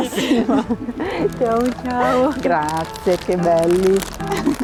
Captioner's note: speak Italian